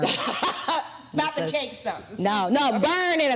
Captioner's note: laughs